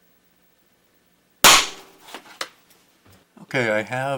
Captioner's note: small explosion